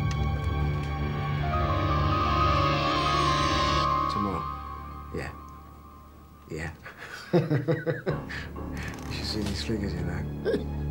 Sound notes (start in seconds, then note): 1.2 soft ominous music; 6.8 laughing